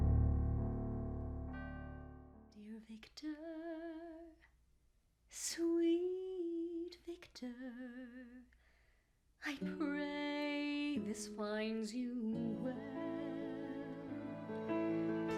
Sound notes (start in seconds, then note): none